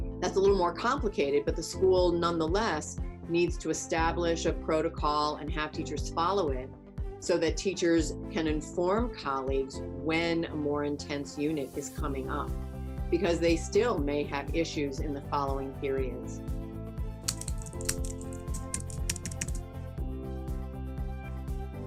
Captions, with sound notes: That's a little more complicated but the school, nonetheless, needs to establish a protocol and have teachers follow it so that teachers can inform colleagues when a more intense unit is coming up, because they still may have issues in the following periods. (keys clicking) (happy electronic music)